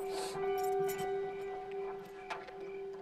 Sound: keys Jingling

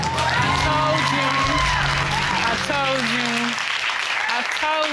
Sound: cheers and applause

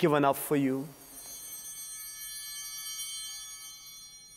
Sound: bell ringing

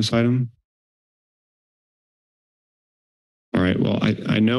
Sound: silence

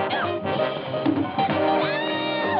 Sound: scream

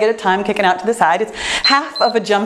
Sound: timer beeps

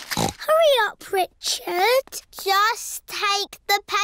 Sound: snorts

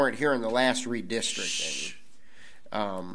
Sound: none

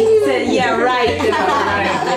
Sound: laugh

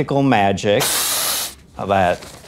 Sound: hiss

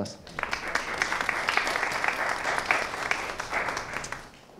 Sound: audience applauding

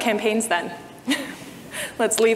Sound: chuckles

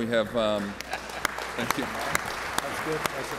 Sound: applause

